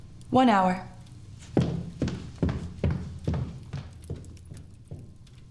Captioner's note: footsteps thudding